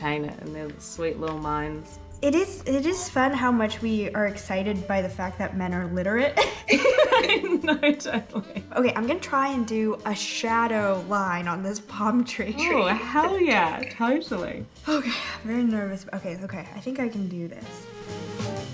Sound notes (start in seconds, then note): 6.4 both laughing; 18.4 bouncy music